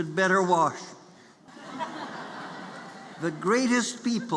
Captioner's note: laughter